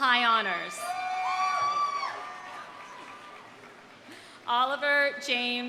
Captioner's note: audience cheering; audience applauding